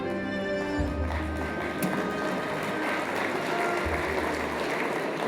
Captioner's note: audience applauding